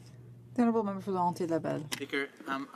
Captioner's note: speaking French